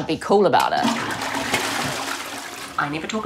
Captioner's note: toilet flushes